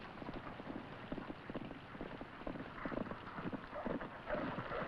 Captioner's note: horse hooves clomping